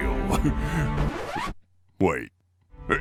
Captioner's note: record scratch